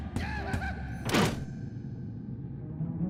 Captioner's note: crank